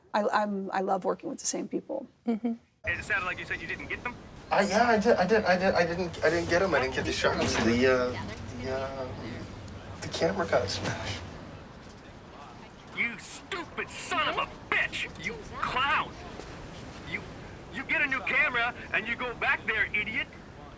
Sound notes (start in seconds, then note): 5.0 stammers; 8.2 stammers